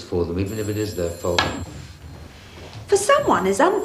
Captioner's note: phone ringing